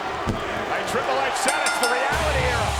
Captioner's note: bell rings